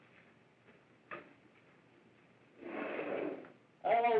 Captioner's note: none